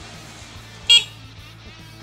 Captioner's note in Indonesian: klakson